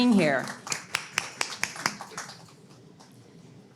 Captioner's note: clapping